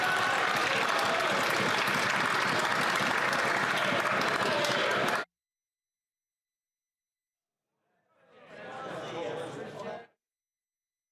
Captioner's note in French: applaudissements